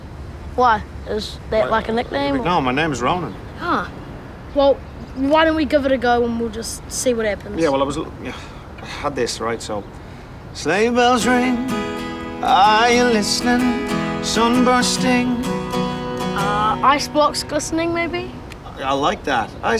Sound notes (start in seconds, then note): 8.1 sighs